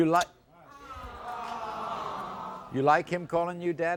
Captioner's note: crowd aww's